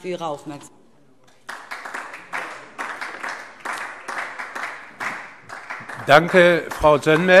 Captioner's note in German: Beifall DIE LINKE